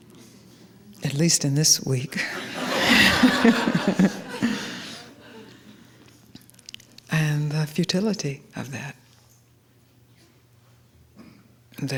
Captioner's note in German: Gelächter